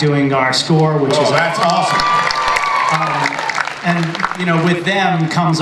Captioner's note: audience and panelists cheer